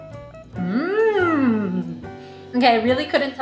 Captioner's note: speaks in foreign language; hums